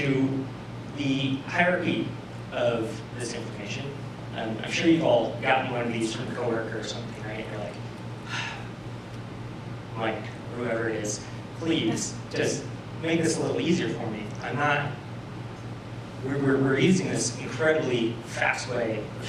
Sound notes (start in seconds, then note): 8.2 sigh